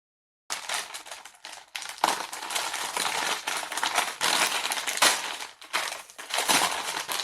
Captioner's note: paper crinkling